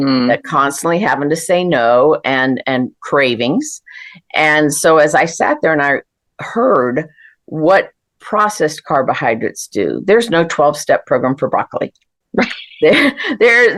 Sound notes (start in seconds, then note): 12.4 laughter